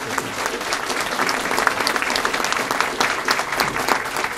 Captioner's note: applause